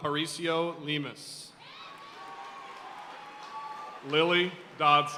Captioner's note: audience cheering and applauding